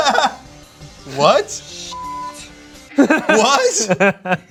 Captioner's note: laughs; intense music; beep; laughs